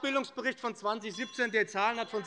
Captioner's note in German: Glockenzeichen der Präsidentin